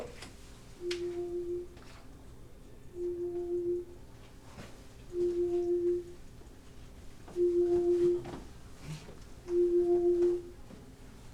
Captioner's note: phone ringing